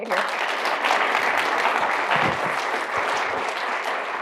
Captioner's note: applause